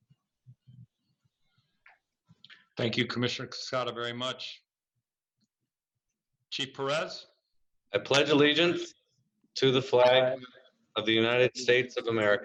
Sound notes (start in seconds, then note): 1.5 moment of silence